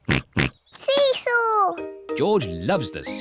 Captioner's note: oinks